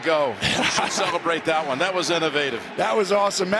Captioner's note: Tony laughing